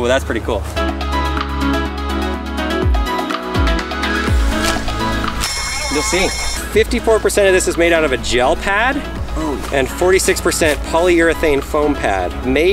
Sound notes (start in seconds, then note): 2.0 electronic music; 5.0 sirens wail